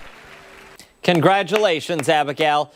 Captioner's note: applause